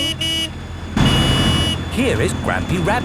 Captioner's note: honking